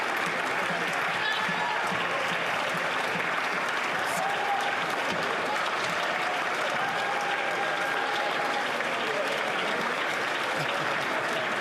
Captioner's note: applause